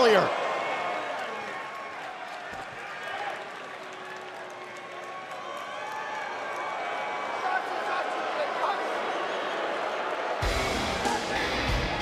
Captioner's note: crowd cheering